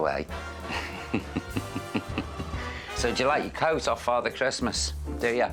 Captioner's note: laughs